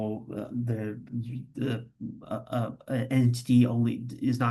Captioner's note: stammering